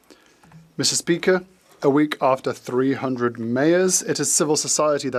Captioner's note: speaking French